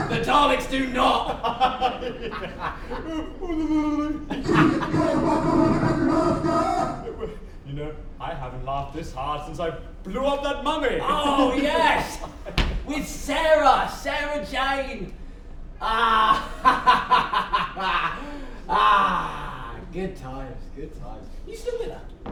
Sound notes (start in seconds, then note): 15.9 awkward solo laughing